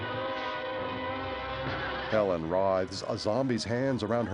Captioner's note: gasping